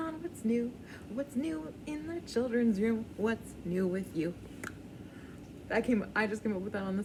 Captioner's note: clicks tongue